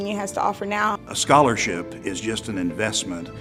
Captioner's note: voiceover